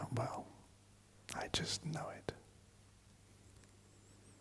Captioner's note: whispers